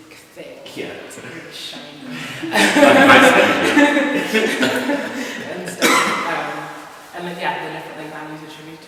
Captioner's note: laughter